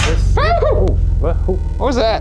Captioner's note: exclaiming